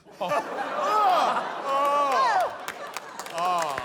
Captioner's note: laughter